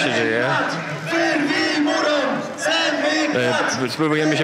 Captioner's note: chanting